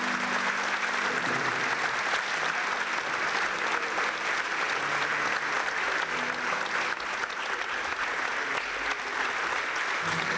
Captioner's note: clapping